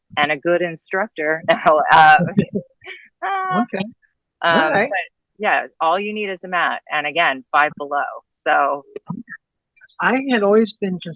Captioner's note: laughing